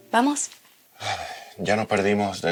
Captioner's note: sigh